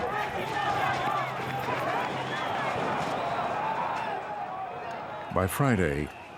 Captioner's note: people shouting